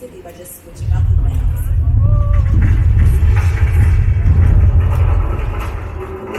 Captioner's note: sudden earthquake